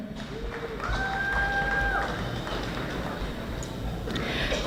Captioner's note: audience applauding